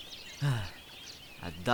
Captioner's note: sigh